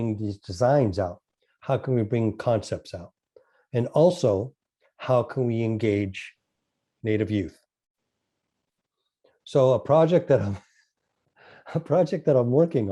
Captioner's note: laughs